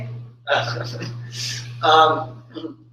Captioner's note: laughing